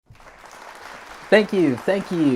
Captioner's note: applause